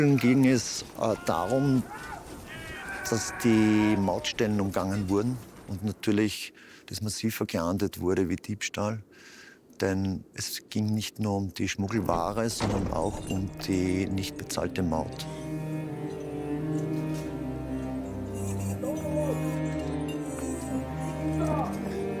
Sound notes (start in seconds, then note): 17.1 chains rattling